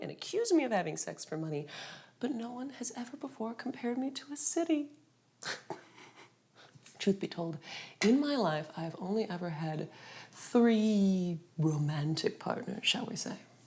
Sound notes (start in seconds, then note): 5.4 both chuckle